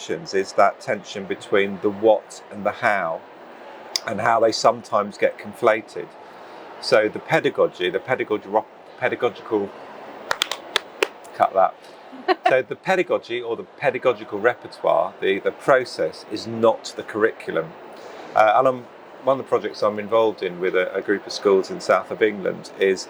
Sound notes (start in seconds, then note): 10.3 hands slapping; 12.2 laughs